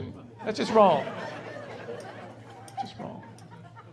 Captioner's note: laughing